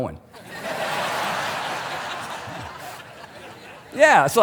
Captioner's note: congregation laughing